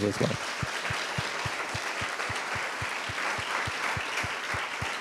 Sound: audience applauding

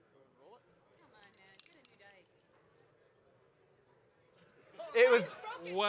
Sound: glass clinking

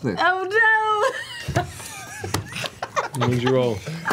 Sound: laughs

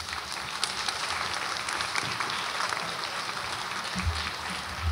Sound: audience applauds

